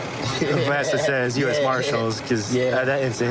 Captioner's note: laughing